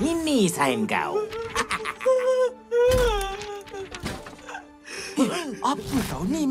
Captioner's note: despairing whimpering; MechaBot laughs meanly